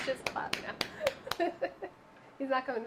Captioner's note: laughing